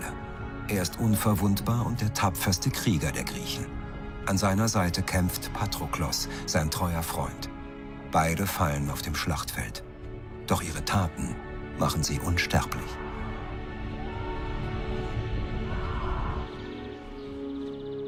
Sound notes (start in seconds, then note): 12.7 screaming indistinctly